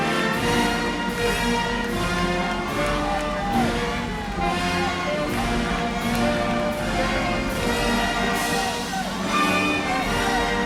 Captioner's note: applause